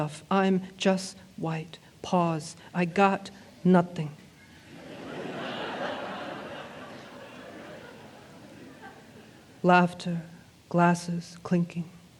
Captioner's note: laughter, glasses clinking